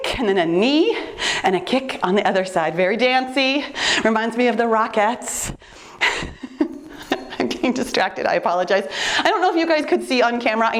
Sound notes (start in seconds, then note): 6.0 laughs